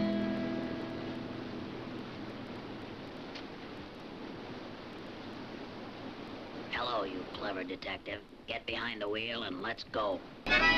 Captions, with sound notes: (water splashes) Hello, you clever detective. Get behind the wheel and let's go. (lively harmonica music) (engine rumbles)